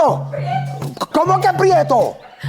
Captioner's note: Moncha laughs